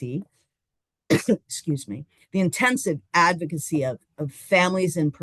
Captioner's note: coughs